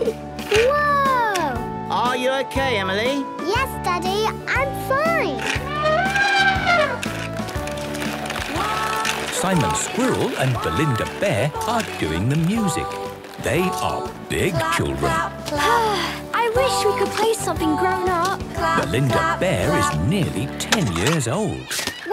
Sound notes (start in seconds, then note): 6.0 trumpeting; 15.6 Belinda sighing